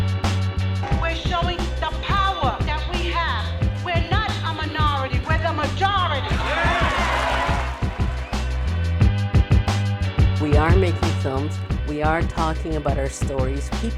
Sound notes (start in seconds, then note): 6.2 cheering